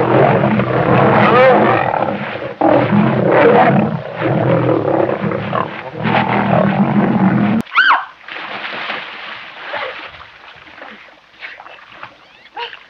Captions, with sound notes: (scuffling sounds) Jane screaming [Splash!]